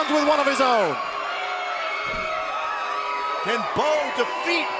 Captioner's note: crowd cheering